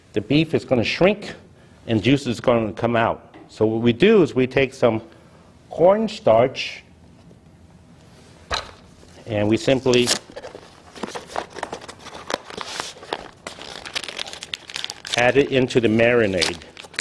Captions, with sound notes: the beef is gonna shrink and juice is gonna come out. So what we do is we take some cornstarch and we simply (packaging rustling) add it into the marinade.